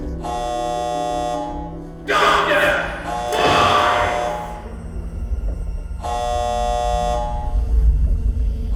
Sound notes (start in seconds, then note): 2.4 person shouting